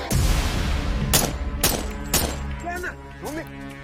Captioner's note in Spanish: Disparos